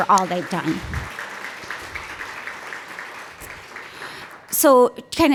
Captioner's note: applause